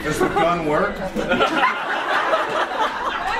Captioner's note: audience laughs